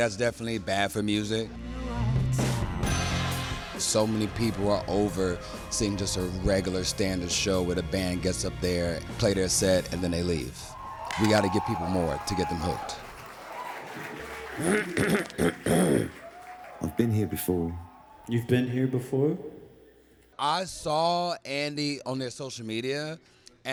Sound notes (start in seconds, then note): 13.3 audience clapping, cheering; 14.5 clearing throat